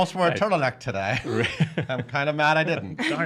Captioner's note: laughing